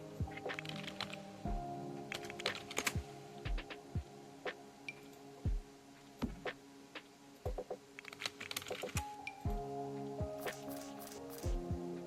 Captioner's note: typing and Sims object placement sounds